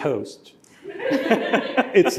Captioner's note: laughter